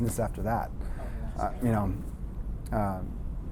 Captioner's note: voices murmuring